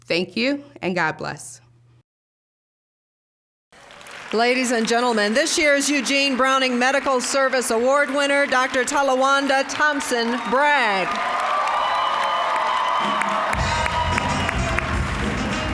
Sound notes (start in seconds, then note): 4.0 applause; 11.5 cheering, applause; 13.5 upbeat jazz music; 13.8 applause